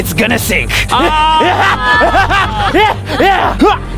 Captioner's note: laughing